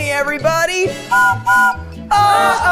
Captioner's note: train whistle blowing